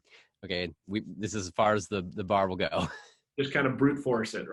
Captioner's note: laughing